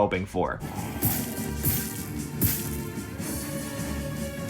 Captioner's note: arrows firing; tense music